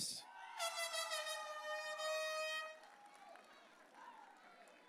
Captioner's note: air horn blaring; audience cheering